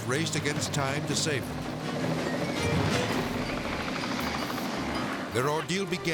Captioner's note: propellers humming